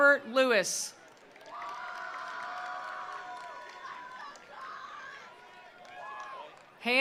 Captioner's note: attendees applauding; attendees cheering